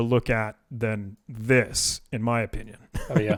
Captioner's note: laughs